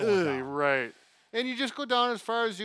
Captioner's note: groans